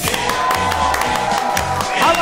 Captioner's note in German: Jubel, Applaus